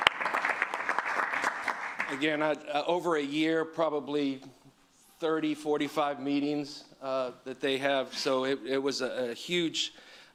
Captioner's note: applause